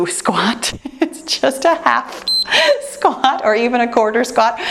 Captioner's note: timer beeps